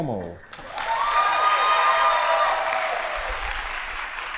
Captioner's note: audience applauding